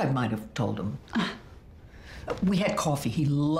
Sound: scoffs

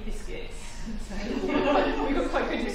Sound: laughter

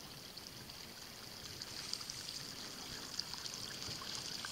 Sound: water running

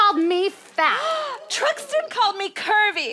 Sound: gasps

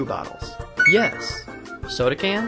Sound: beeps

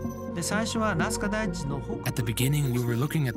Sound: dramatic music; man speaking in foreign language

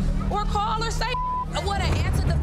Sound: beep

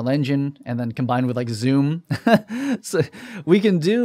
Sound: laughs

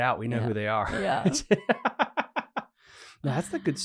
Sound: laughing

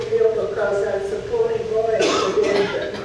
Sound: audience member coughing

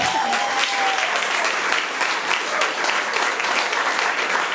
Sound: audience applauding

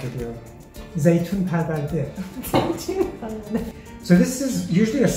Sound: speaks other language

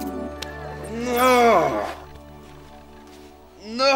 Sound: grunting

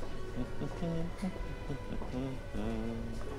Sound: humming

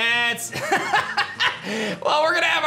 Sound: laughs

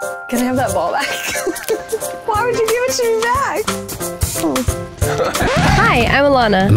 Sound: laughs

